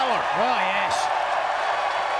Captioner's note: applause